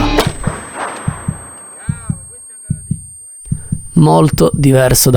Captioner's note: gunshot